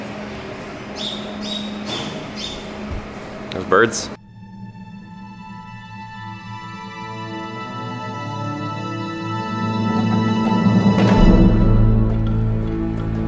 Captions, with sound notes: (birds tweeting) There's birds. (dramatic music)